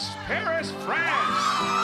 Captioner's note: french music; cheering and applause